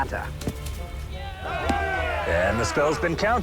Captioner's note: cheering